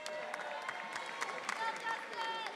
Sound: audience cheering

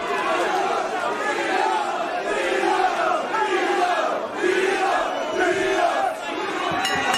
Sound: crowd Chanting

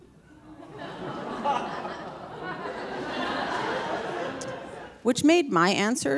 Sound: audience laughing

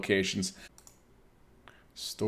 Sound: mouse clicks

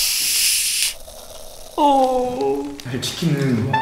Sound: fizzing like crazy

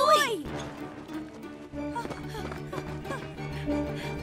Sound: panting

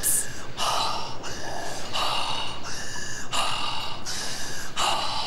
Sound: heavy breathing

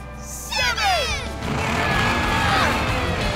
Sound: grunting

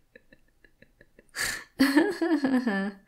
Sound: Lilly begins to laugh once more, hohoho

